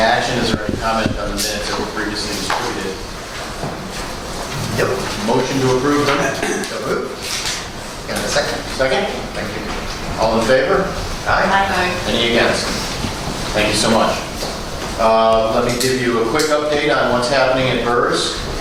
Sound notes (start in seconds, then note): 11.2 A chorus of ayes